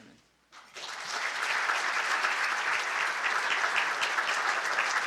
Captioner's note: audience clapping